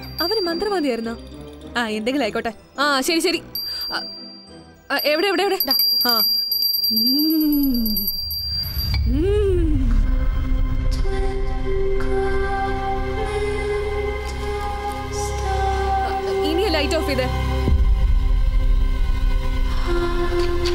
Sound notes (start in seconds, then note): 3.4 bell rings; 7.0 humming; 8.8 hmmm